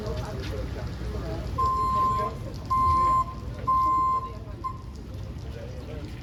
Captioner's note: engine beeps